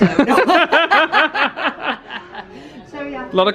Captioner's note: they laugh